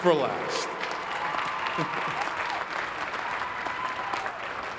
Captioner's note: crowd clapping